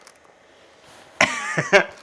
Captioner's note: laughter